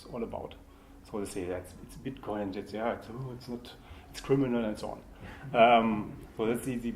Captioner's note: laughter